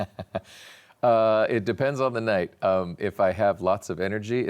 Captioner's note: laughs